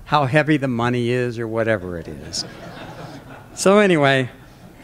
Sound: laughter

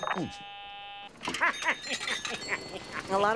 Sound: laughing evilly

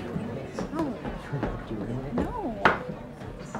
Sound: chattering

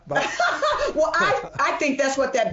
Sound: laughing

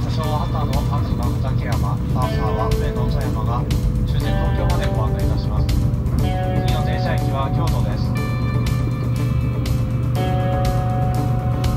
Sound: train accelerates

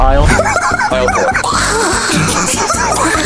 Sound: laughing

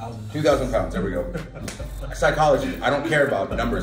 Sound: laugh

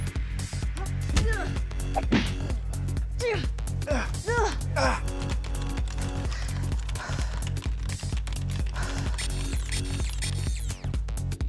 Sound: energetic techno music; both making effort noises

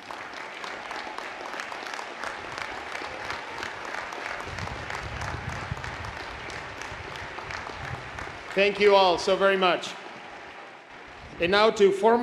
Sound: applause

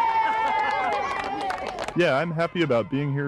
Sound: cheering and clapping

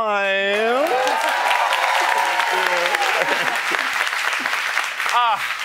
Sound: cheers and applause

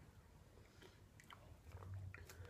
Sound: smol sip

